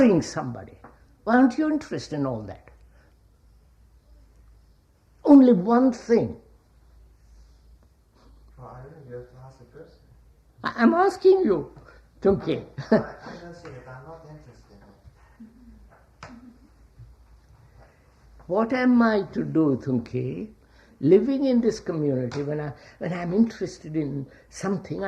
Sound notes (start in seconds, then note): 15.3 laughs